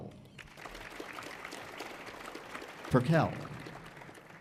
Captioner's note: audience applauding